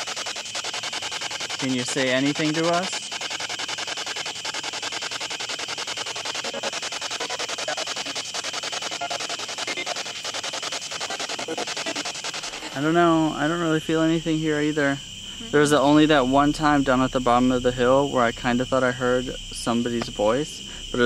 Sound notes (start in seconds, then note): 3.3 static pulsing; 12.1 static buzzing